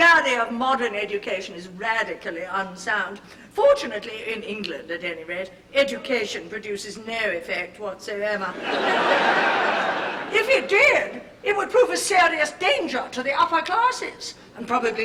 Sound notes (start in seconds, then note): 6.0 laughter